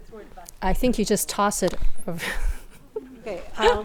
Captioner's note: laughs